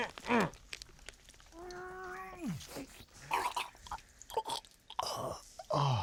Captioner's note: gurgling, choking noises; moaning with pleasure